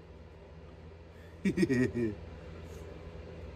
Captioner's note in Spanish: Ella se ríe